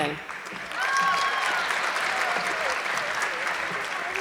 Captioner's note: audience clapping